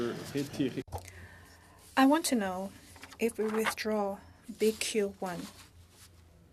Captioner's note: speaking French